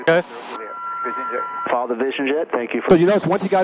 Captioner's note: radio murmuring